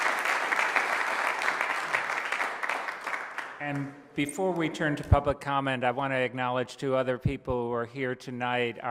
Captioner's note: applause